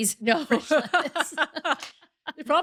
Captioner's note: laughing